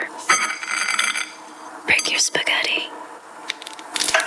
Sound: spaghetti rattling; spaghetti snapping

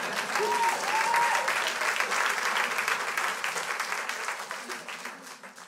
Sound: crowd laughs; crowd applauds

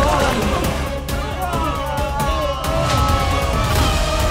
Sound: moaning

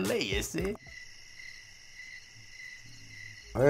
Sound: sounds of crickets

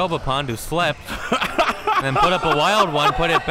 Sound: laughing

